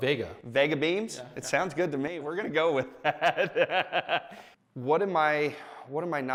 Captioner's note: laughs